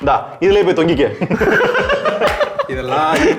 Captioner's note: men laugh